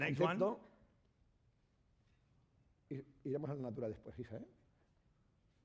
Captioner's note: speaking spanish